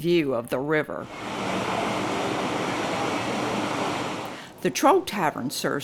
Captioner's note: water gushing